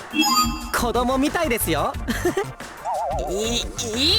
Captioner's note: chuckle